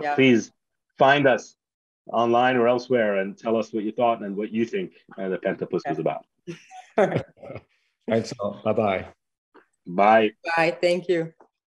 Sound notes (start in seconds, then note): 6.8 laughs